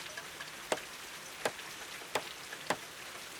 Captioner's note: hammer thumping